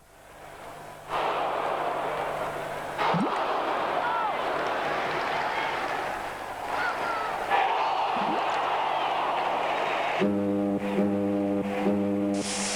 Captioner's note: gurgling